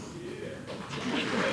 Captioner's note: applause